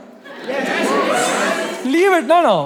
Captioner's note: crowd in unison